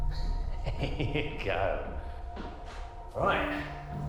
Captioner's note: laughs